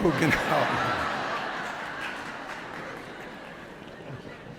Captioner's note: laughter